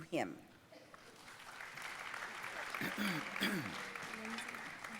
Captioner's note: audience applauding